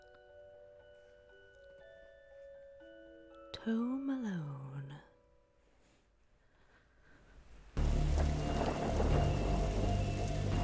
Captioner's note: thunder